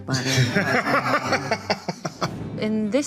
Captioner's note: laughing